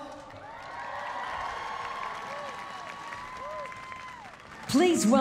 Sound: cheering and applause

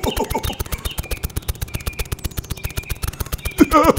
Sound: snapping

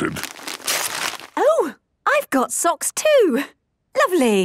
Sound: tearing

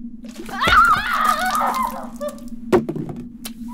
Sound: cries loudly

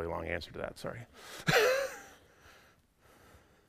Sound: laughs

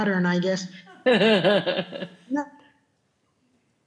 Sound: laughing

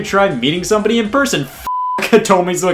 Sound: beep

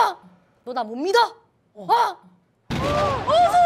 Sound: shouting

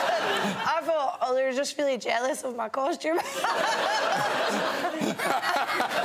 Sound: laughs

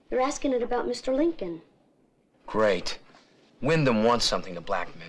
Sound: none

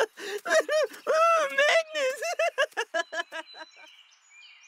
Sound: laughter continues; continued laughter

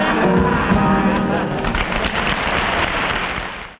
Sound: audience laughing; audience clapping

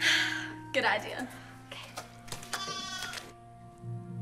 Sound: sighs

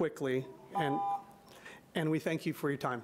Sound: alarm beeping

